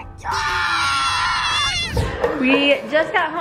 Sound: screaming

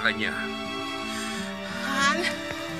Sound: gasps

